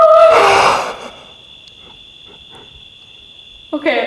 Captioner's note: gasps